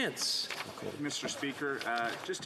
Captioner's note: speaking French